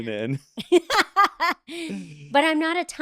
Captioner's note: laughing